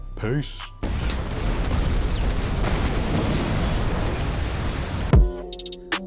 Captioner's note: roaring explosion; upbeat music